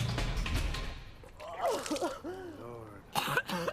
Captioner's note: Nikita retching